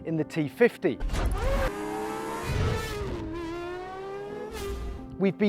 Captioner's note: engine roars